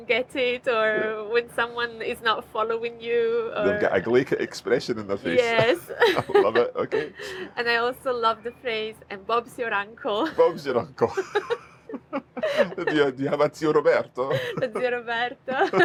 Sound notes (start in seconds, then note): 5.2 chuckles; 10.2 both laugh